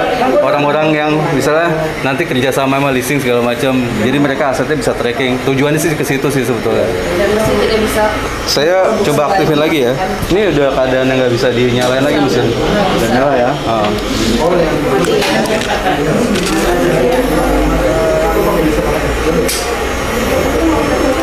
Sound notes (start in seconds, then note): 9.3 distant chattering